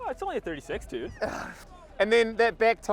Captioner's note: groans